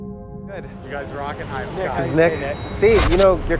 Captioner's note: people murmur